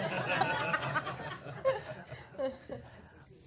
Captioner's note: laughter